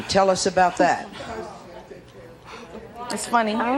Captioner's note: audience murmuring